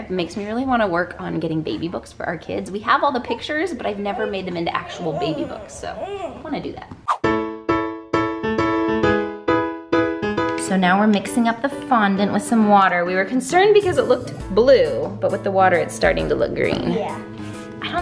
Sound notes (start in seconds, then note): 3.8 whines; 7.4 upbeat, bouncy music